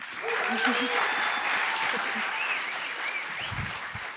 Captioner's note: applause